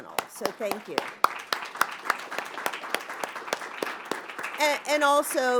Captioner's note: applause